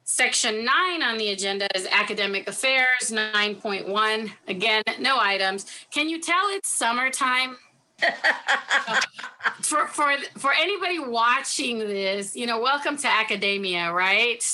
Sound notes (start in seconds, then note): 8.0 laughs